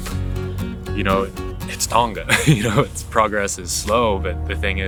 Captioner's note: laughs